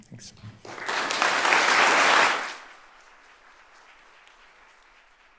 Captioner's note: audience applauding